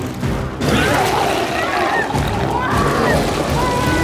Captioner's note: biker screams